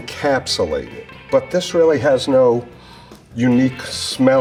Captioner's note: sniffs